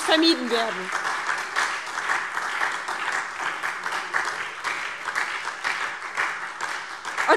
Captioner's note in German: Beifall SPD und DIE LINKE